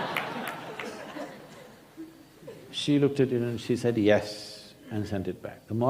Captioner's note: laughter